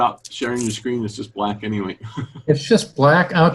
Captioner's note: chuckles